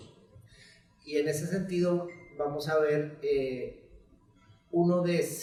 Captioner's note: speaks in Spanish